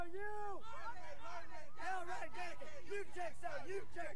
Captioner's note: cadets chanting